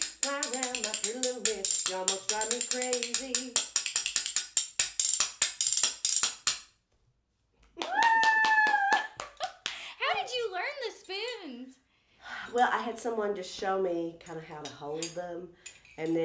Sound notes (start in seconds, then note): 7.8 cheering